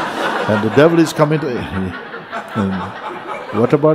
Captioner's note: laughter